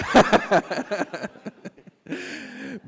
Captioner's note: laughing